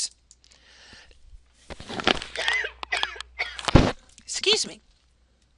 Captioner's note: cough